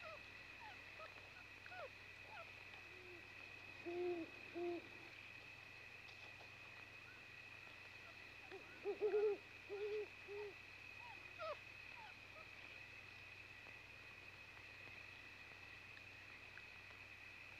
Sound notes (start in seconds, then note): 0.1 puppies whimpering; 3.8 owl hooting; 6.7 crickets chirping